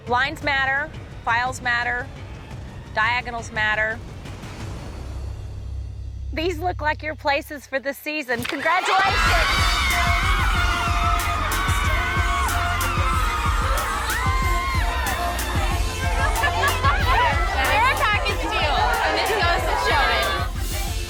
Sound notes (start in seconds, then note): 9.4 cheering and screaming; 9.4 upbeat music